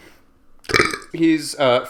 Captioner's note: very cool belch